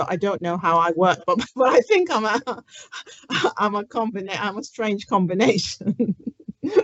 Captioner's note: laughs